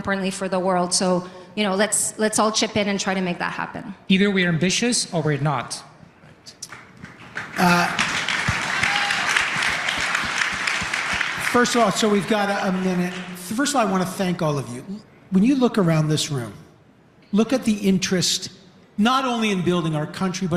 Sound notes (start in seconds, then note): 13.1 applause; 13.9 cheering/Applause